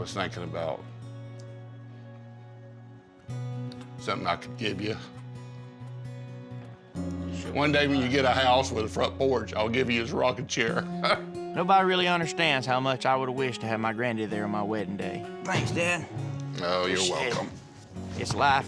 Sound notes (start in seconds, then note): 4.3 voice cracks with emotion; 11.0 chuckles